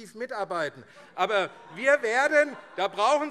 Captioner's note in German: Lachen BÜNDNIS 90/DIE GRÜNEN und SPD